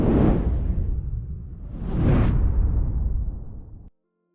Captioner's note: whooshing sound playing